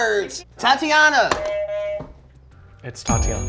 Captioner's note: buzzer beeps